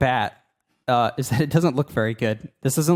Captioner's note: laughing